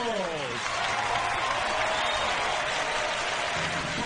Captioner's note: audience cheers